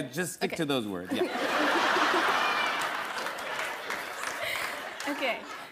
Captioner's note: laughter